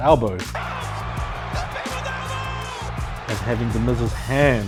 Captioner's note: crowd Cheering; Announcer Screaming "The People's Elbow"